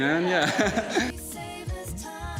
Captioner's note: laughs